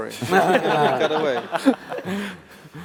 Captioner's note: laughter